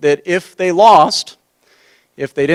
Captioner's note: none